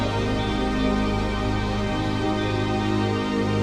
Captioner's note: none